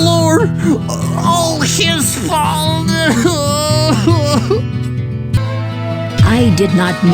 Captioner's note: 呻吟; groans